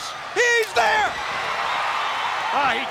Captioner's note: audience cheers